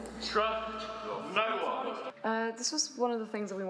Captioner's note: background voices